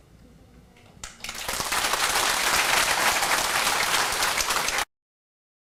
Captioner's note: applause